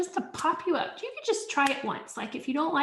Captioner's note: palms smacking